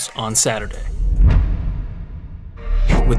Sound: audio hit

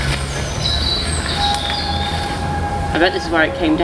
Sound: birds chirping

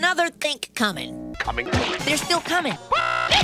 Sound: splat

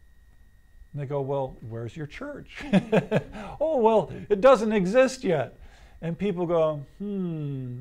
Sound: laughs

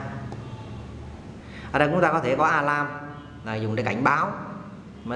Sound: alarm

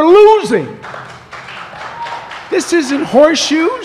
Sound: applause

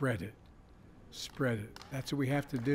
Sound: applause

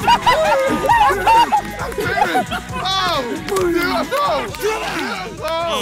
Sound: players cheer indistinctly

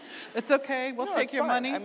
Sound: audience laughing

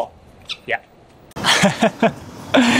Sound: chuckles

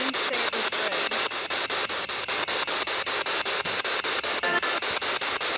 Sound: loud, choppy static

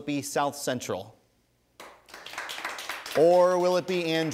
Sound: audience applauding

